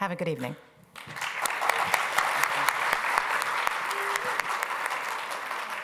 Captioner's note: applause